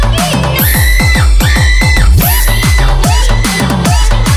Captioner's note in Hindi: चीखने की आवाज़